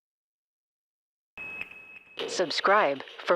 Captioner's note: tone beeping